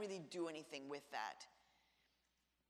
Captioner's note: none